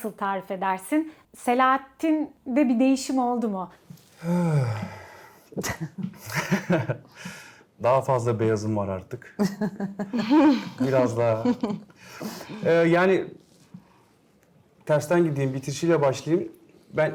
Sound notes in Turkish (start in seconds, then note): 5.6 kahkaha